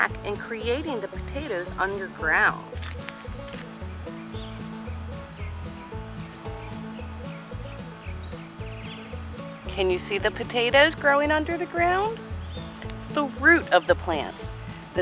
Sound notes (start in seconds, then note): 3.0 grass rustling; 4.1 joyful instrumental music